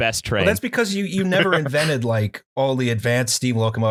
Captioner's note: laughter